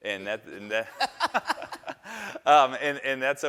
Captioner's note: all laughing